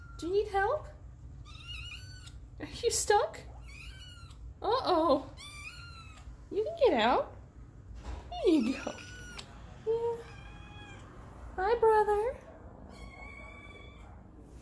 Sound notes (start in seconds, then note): 10.2 distant meow